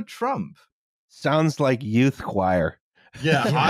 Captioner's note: laughter